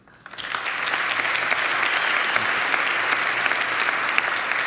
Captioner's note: crowd applauding